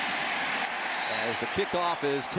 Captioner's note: whistle blows